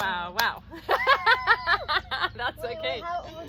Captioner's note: both laughing